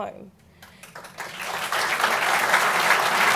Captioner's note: applause